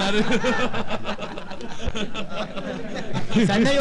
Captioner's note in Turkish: gülüşürler